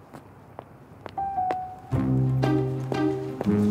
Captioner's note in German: Schritte